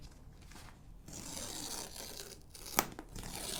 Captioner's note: paper ripping